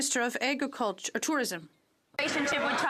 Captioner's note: some Applause